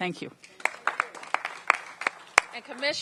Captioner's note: applause